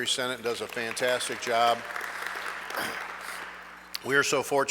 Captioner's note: audience clapping